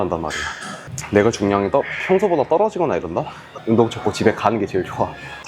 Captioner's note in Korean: 한숨